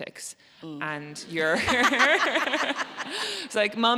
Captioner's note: audience laughs